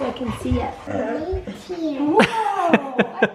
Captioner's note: laughs